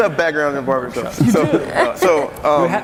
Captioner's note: laughing